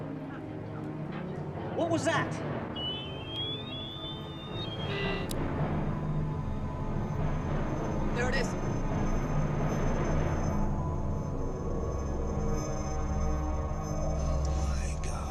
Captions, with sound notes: What was that? [shrill whistle] [click] There it is! Oh, my God.